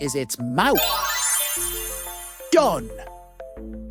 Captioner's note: magic twinkle